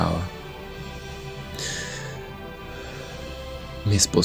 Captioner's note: sigh